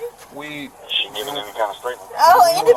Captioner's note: radio chatter